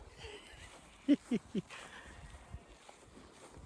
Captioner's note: laughing